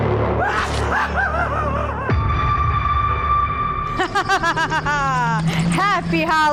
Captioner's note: evil laugh